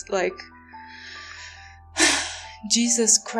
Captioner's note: sigh